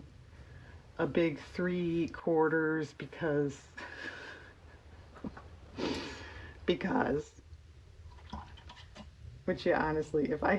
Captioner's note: laughs